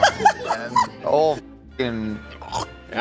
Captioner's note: laughing; vocalizes